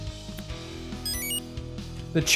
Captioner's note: enter chime